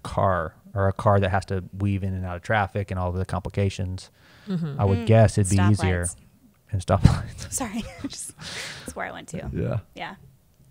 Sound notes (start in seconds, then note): 7.9 chuckles